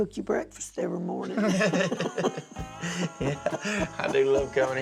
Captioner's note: both laughing